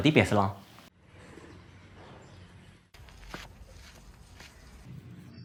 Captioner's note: sound of the breeze, birds chirping